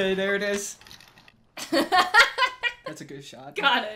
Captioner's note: laughs